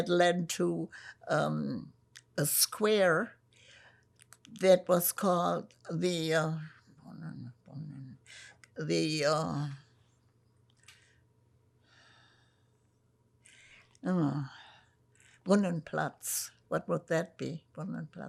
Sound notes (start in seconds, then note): 7.0 pauses 8 seconds